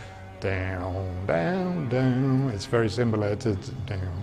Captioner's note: hums